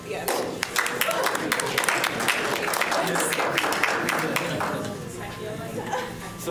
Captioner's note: applause